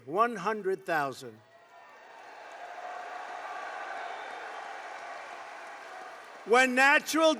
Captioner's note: applause